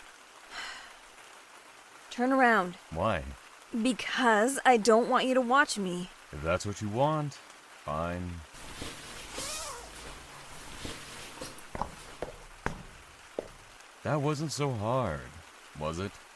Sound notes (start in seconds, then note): 0.5 resigned sigh; 11.2 clothing rustles